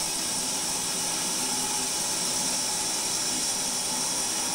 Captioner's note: saw whirring